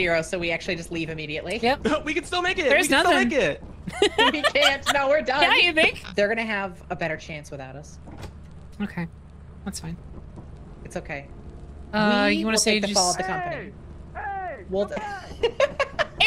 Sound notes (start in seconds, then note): 3.8 laughs; 14.9 laughs